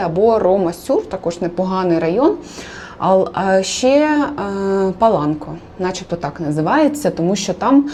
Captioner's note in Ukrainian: сопіння